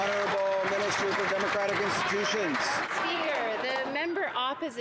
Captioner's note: some Applause